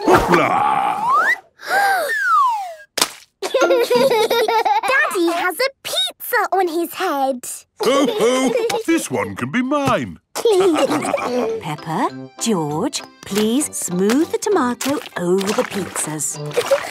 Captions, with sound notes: Hoopla!!! - (Peppa gasps) - (splat) - Daddy has a pizza on his head. - Ho, ho! This one can be mine. - Peppa, George, please smooth the tomato over the pizzas.